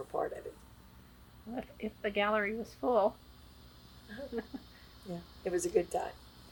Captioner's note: laughs